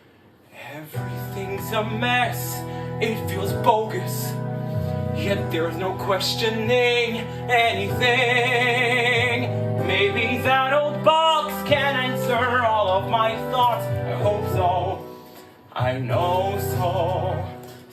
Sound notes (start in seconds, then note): none